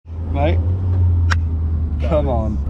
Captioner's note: hands slapping